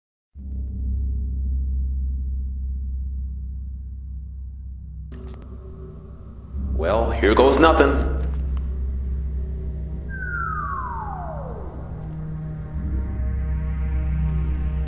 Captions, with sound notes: Well, here goes nothin'! *Falling Sound*